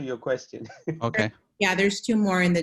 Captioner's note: laughter